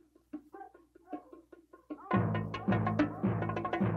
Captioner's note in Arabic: نباح الكلاب